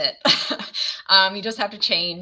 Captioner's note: laughs